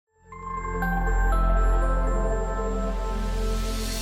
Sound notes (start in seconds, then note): 0.4 bells chiming